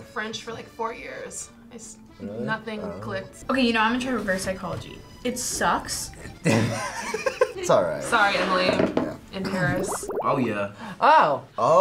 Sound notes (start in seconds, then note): 6.3 laughs